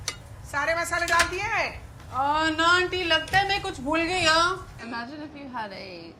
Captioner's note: speaking in a foreign language in movie